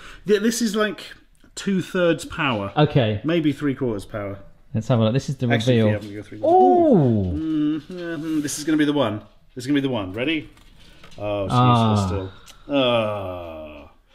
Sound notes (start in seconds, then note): 6.4 both exclaim